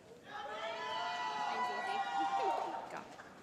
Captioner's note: cheering